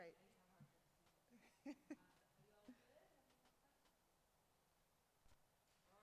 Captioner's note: speaks faintly